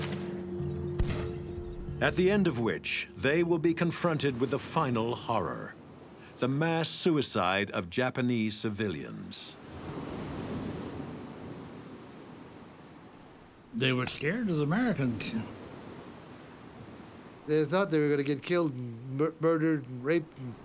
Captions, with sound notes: (gunfire exploding) at the end of which they will be confronted with the final horror, the mass suicide of Japanese civilians. (waves swishing) - They were scared as Americans. - They thought they were gonna get killed, murdered and raped.